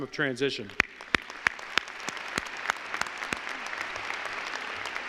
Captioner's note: applause